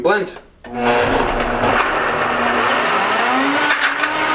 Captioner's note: whirring